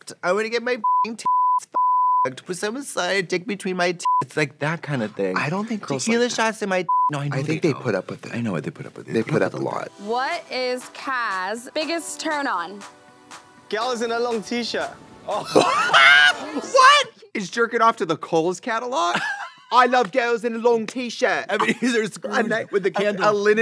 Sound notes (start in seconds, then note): 15.5 Trixie squalls; 19.6 British accent